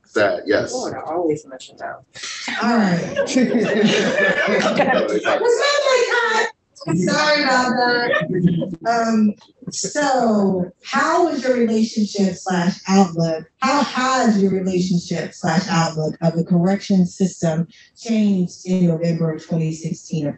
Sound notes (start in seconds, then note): 2.8 laughter